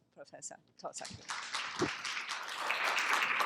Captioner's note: applause